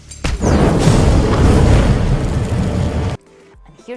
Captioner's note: explosives detonating